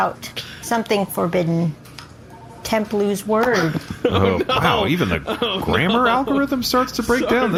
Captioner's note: glitch